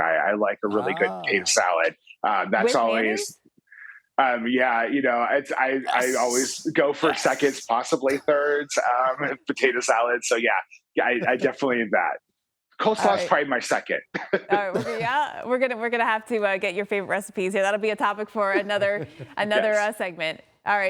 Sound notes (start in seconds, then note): 14.2 laughs